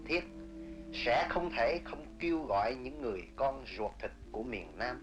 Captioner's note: speaking foreign language